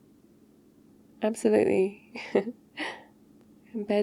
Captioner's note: laughs